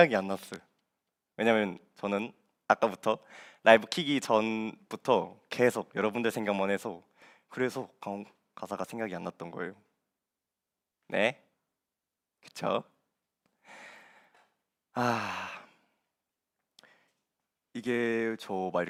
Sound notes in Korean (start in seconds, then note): 13.6 헉 소리; 14.9 한숨